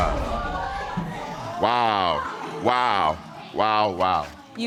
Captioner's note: audience exclaims